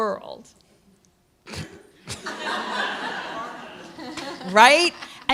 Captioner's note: laughter